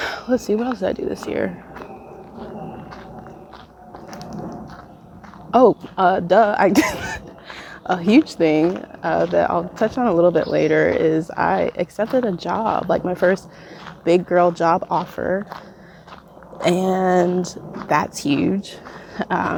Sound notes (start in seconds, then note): 6.7 laughs